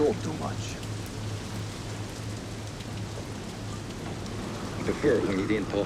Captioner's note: rain pattering; wind whistling